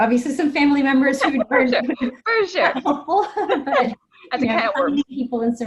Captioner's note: laughing